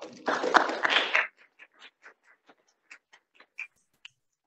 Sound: audience applauding

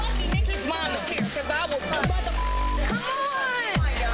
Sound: beep

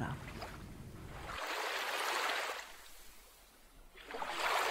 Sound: water splashing

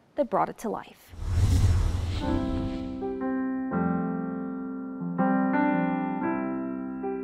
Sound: air whooshing; gentle music

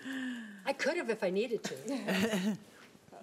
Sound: board laughing

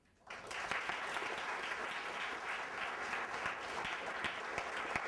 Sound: applause

